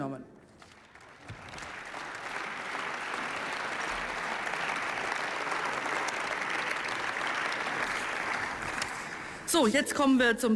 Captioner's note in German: Beifall